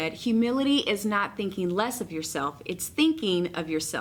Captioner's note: none